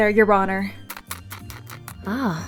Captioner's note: munch munch